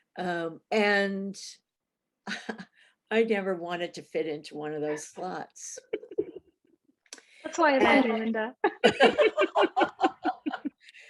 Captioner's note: laughter